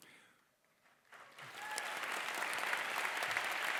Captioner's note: crowd applause